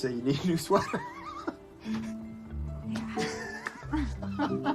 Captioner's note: laughing